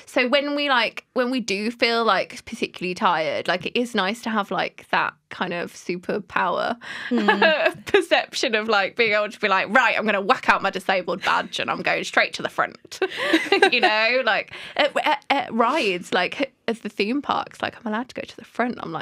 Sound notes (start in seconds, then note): 13.0 laughter